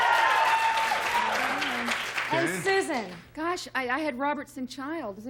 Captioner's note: cheers